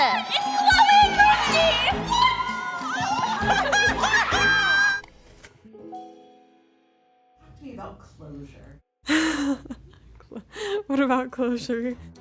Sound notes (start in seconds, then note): 3.6 laughs; 9.1 laughs